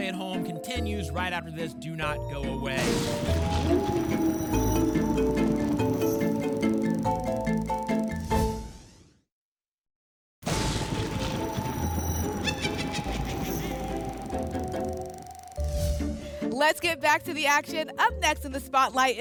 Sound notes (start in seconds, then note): 2.8 thunder; 3.8 wolf howl; 8.4 whoosh; 10.4 thunder; 12.4 witch cackle; 15.6 whoosh